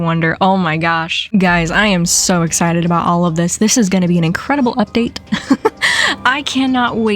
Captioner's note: laughs